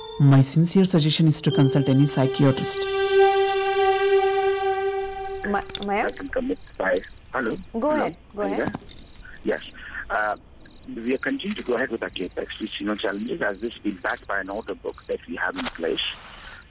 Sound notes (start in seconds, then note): 5.3 news playing on TV